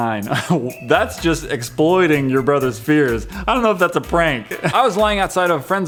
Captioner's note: second chuckle